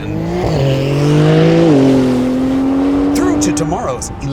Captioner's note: engine revving